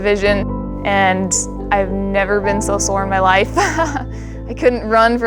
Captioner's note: laughs